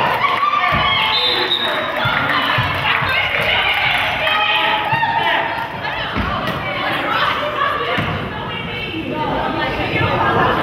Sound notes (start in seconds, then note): 0.9 whistle blows; 3.1 crowd claps